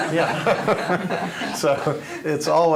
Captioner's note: laughing